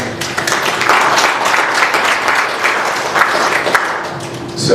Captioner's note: applause